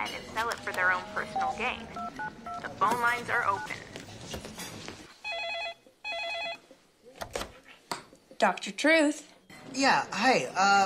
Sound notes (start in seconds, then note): 2.6 phone beeping; 5.1 phone rings